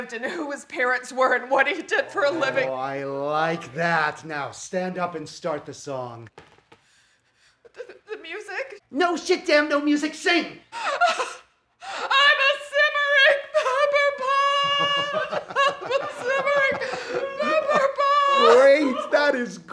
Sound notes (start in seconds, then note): 11.2 crying; 14.9 laughing